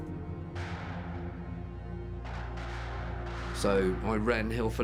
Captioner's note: distant gun fires rapidly